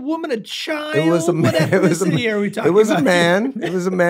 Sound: laughs

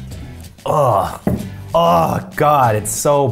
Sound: groans

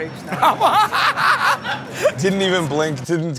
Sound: laughter

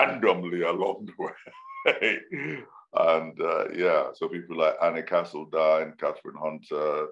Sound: laughs

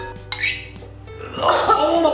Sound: spoon scratches against bowl

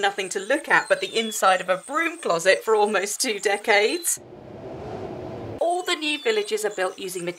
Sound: wind sound

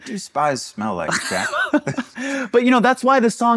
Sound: chuckles

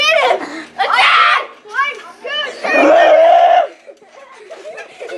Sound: playful screaming

